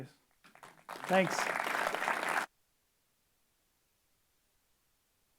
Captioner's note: applause